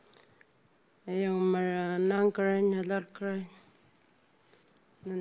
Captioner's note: speaking Anmatyerr